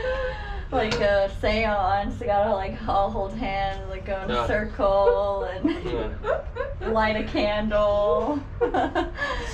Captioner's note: giggles